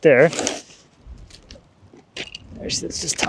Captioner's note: wood clanging